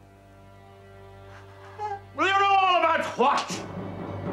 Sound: whimpers

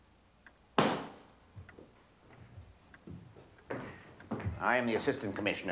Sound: box lid slamming

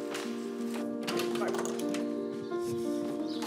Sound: door opens

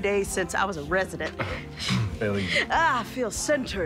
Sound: clears throat

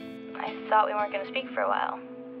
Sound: voice On Phone

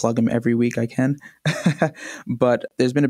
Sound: laughs

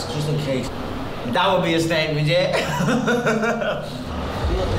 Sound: laughing

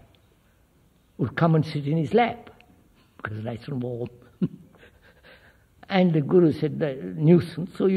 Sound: laughs

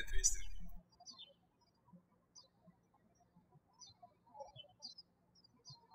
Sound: birds chirping

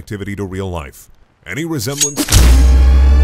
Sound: knife sound

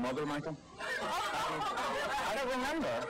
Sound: audience laughing

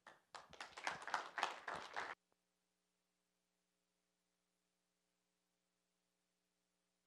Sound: applause

